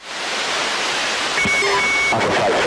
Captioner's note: high altitude noise; signal distortion sound